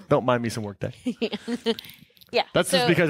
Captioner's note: laughing